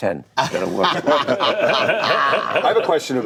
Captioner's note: laughter